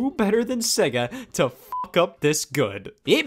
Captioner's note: beep